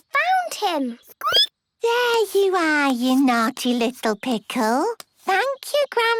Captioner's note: squeaking